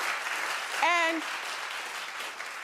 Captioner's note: audience applauding